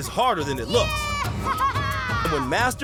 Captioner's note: laughing